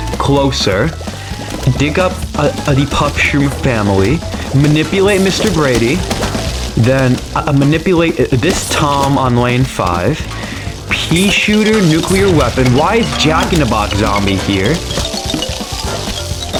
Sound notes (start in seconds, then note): 1.0 inhales Oxygen